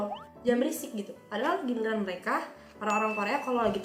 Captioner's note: Korean